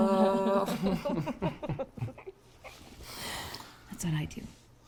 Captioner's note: laughing